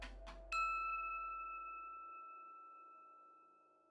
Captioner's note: bell dings